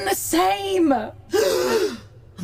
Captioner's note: gasps